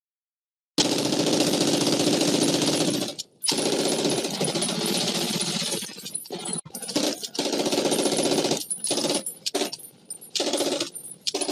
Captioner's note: sound of almost-continuous machine gun fire